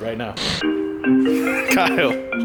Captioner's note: phone rings